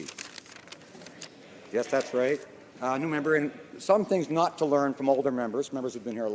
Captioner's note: some Applause